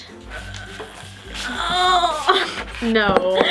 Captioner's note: groaning